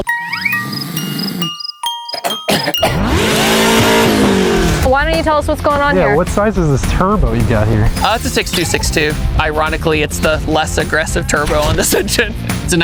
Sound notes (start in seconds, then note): 0.0 lullaby music; 0.1 snoring; 2.0 coughing; 2.9 engine revving